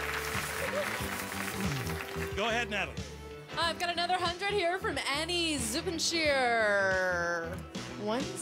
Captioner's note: applause